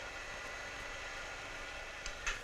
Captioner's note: film rolling